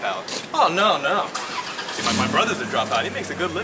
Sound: car engine whirs

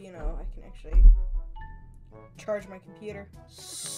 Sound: desk Thump

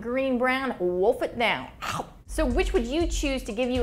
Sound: gulp sound

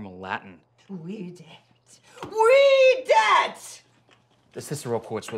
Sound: angrily speaking Latin

